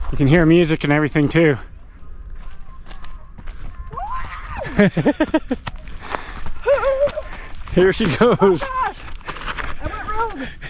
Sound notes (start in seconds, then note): 3.9 screaming; 4.8 laughing